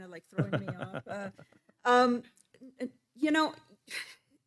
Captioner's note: laughing